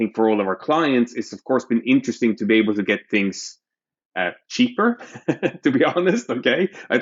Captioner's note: laughter